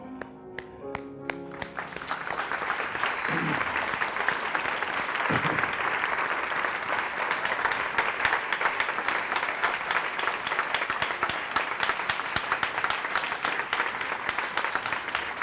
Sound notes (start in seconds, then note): 1.2 clapping